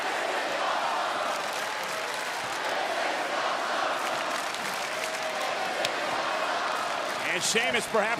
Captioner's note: applause